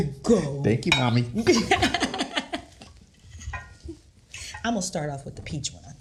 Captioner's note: laughing